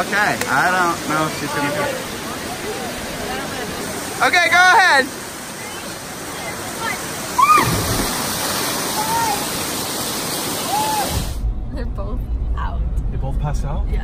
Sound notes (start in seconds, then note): 7.3 screams; 7.9 splashing